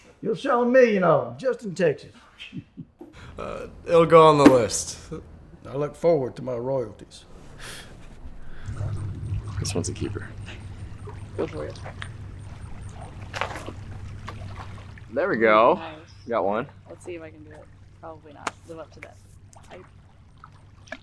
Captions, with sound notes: You'll sell a million of 'em just in Texas. - It'll go on the list. - I look forward to my royalties. - This one's a keeper. - Go for it. (Water splashing) - There we go. - Nice. - Got one. - Let's see if I can do it. Probably not live up to that.